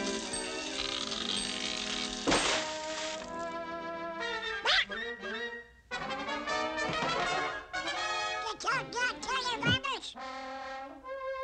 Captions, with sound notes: (EXCLAIMING) You doggone dirty robbers!